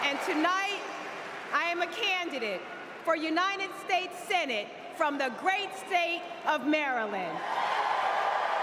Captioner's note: cheers and applause